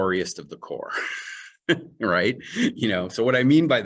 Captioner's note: chuckle